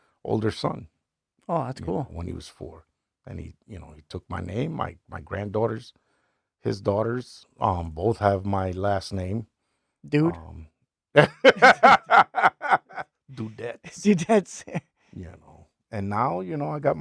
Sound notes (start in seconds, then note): 11.2 laughing